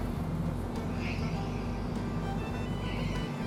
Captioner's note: quiet screeching